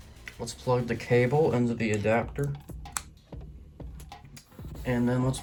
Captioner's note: port snaps as it plugs in